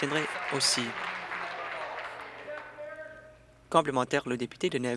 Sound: applause

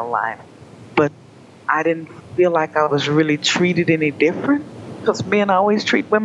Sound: questioning tone

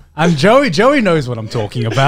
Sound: laughing

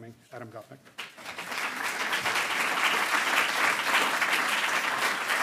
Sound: audience applauding

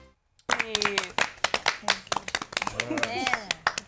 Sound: applause

